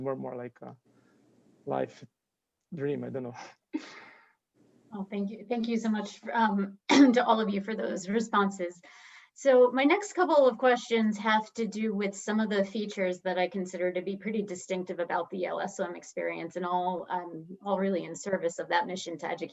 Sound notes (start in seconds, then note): 3.8 chuckles; 6.8 coughing